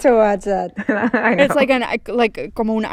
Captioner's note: laughter